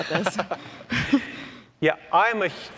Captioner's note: laughs